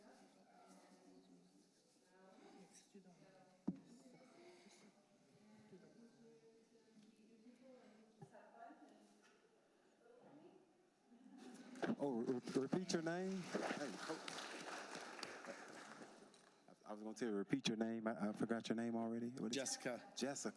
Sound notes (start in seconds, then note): 16.7 applause